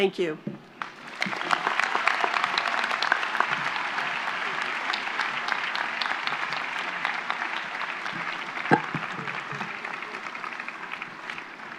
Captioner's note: applause